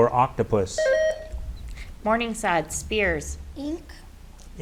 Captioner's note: buzzer beeps